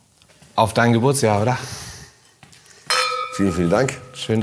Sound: clink

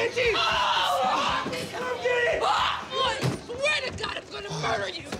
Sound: Maddie yells

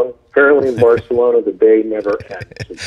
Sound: laughs

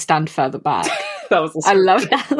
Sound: laughing

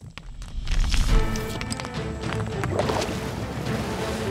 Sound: rocks falling; intense orchestral music; water bubbling

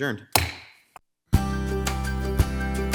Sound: gavel taps; upbeat music

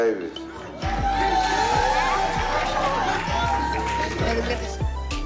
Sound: cheering, applauding

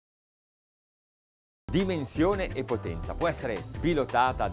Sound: speaking Italian

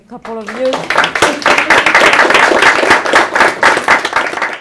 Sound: audience applauds

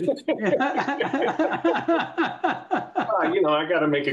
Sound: laughter

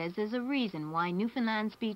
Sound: none

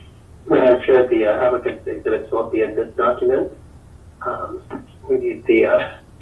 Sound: distortion on phone

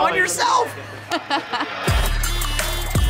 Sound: laughing; electronic music

